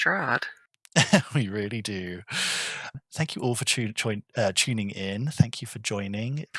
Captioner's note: laughing